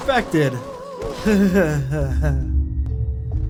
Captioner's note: sad laugh